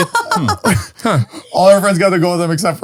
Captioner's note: laughing